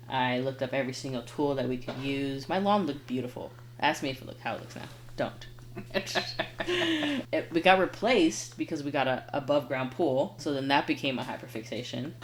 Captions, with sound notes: I looked up every single tool that we could use. My lawn looked beautiful. Ask me if it looked how it looks now. Don't. (laughing) We got replaced because we got a above ground pool. So then that became a hyper fixation.